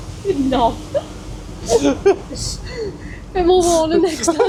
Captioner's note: laughter